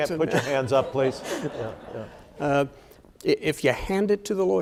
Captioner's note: audience laughing